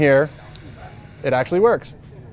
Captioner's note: air hissing